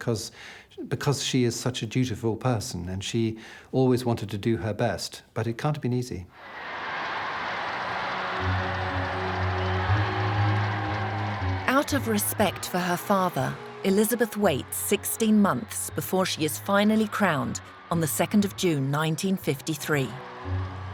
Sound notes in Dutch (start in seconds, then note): 6.8 publiek juicht; 8.8 langzame muziek